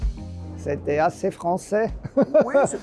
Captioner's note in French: rires